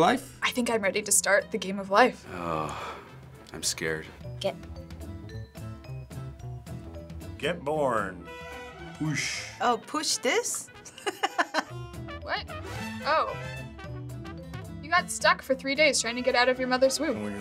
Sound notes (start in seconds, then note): 2.2 groaning; 10.8 laughing